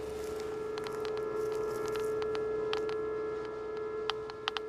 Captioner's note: geiger counter clicking